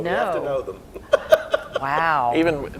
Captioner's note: laughing